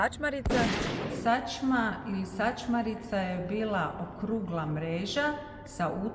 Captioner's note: shotgun